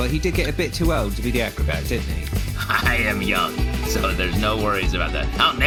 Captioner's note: laughing